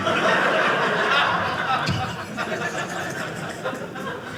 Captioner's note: audience laughing